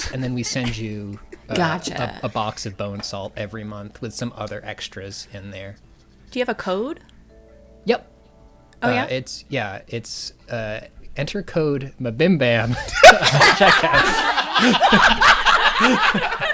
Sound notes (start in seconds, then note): 12.7 laughter